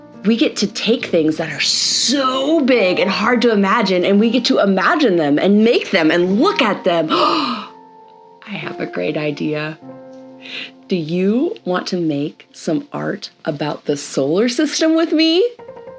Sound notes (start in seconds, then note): 7.1 gasps excitedly